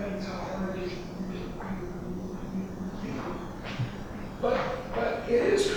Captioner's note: speaking softly